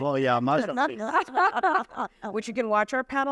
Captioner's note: laughter